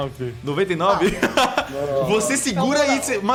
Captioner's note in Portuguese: risos